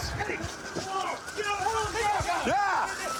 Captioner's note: officers yelling